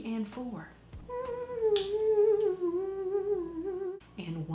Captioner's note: humming